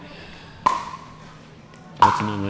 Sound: ball bouncing

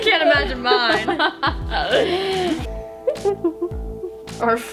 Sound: laughs

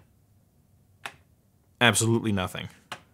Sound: tapping

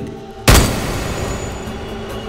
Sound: gunshot

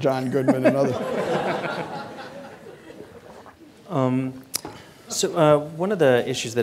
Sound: audience laughing

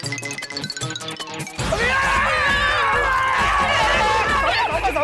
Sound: screams

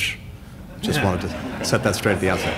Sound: laughter

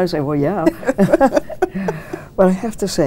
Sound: both chuckling

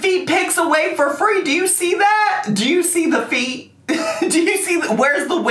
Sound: laughs

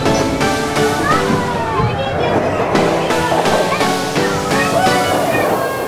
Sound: sounds of kids playing

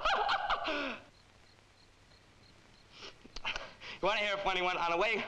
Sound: laughs; critters chittering

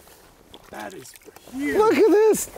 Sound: laughing

